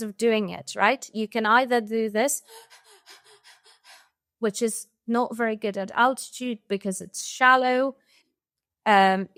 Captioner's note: quick shallow breaths